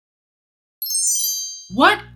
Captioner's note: text tinkling